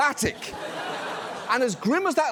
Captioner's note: audience laughs